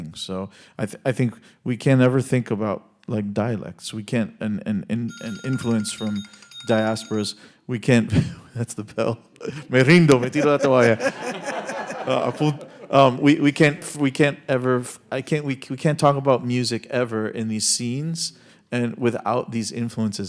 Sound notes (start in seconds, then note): 9.7 speaking in Spanish; 11.1 audience laughing